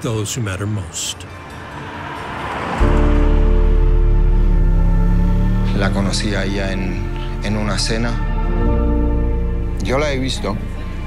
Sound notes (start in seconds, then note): 1.0 trolley bell ringing; 3.4 vehicle engine revving; 6.0 Topuria speaking in Spanish